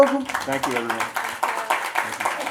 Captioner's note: audience applauds